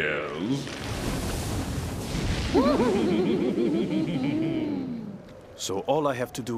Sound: laughing

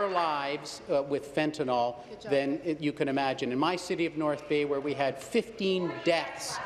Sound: applause

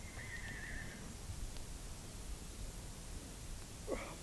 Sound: horse neighs

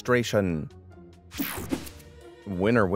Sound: transition zapping

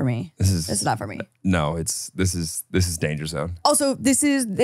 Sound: laughs

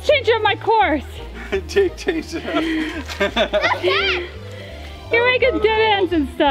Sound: laughing

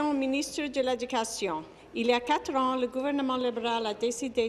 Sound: speaking in French

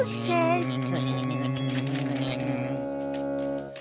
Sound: buzz

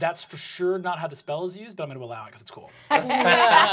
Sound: laughter

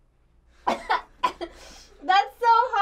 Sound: laughs; coughs

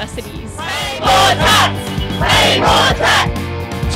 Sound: chanting

